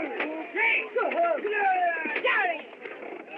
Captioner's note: shouting, Grunting